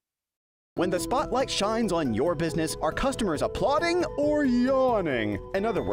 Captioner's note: voiceover